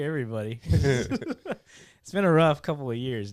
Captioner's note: laughing